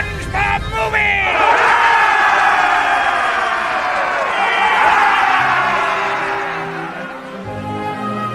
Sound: all cheering

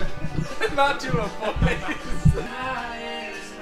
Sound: laughing

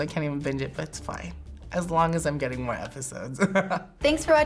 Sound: chuckles

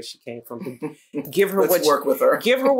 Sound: laughs

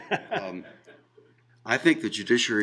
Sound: laughing

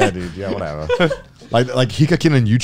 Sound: laughing

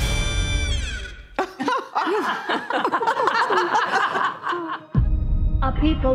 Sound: laughter

